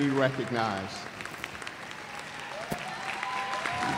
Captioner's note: cheers and applause